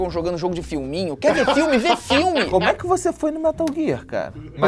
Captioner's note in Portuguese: risadas